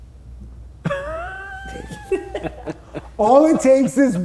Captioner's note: laughing